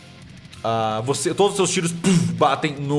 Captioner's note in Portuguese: poof